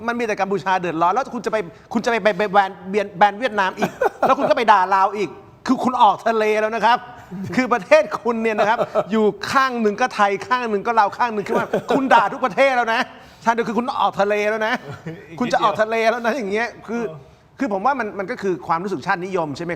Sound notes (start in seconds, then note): 11.3 laughs